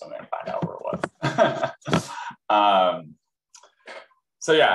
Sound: laughs

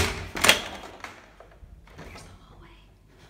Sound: whispers

